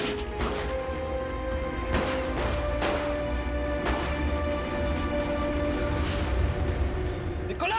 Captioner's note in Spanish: Disparos